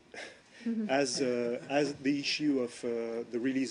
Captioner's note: laughter